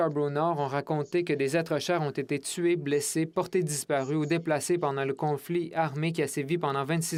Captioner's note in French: voix de l'interprète